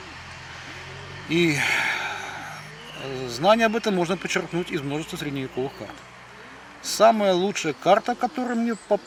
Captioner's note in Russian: вздыхает